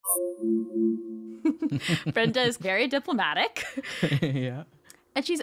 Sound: chuckling; chuckling

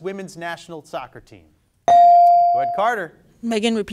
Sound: bell dings

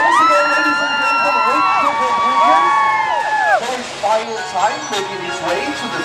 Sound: cheers; girls Screaming

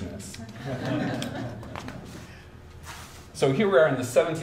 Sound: audience chuckles

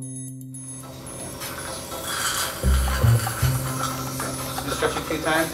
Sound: suction

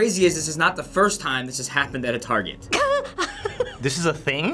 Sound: cracks up

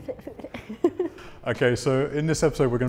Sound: laughter

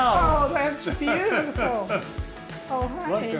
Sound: laughs

